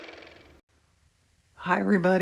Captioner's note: car motor